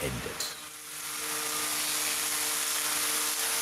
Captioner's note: planing noises